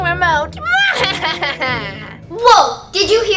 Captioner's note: laughs